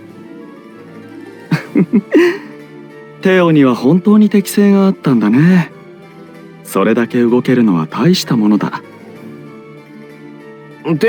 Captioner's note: laugh